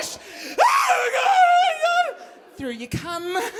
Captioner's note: screaming